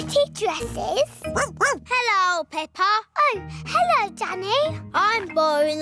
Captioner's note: barks